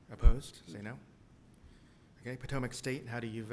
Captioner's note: silence